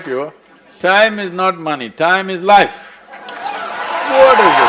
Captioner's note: cheers/Applause